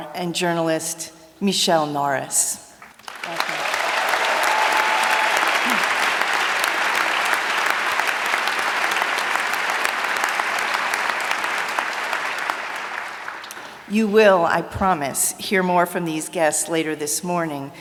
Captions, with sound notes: and journalist Michelle Norris. Thank you. [ Applause ] You will, I promise, hear more from these guests later this morning.